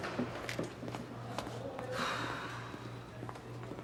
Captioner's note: sighs